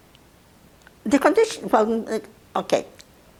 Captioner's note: mumbling